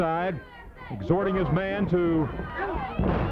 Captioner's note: footsteps plodding; body thudding